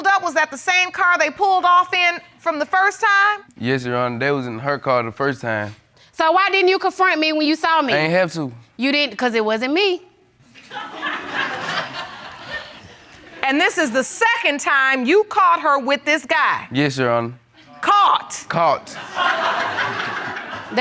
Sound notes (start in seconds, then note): 10.5 laughter; 18.9 audience laughing